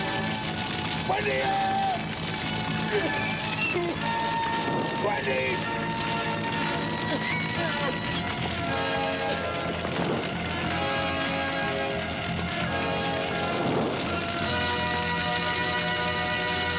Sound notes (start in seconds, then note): 9.7 crowd gasping